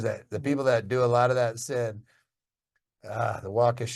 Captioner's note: sighs